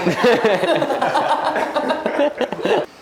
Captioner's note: laughs